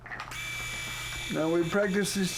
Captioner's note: electric shaver buzzing